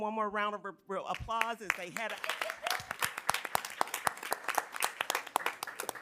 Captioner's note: attendees clapping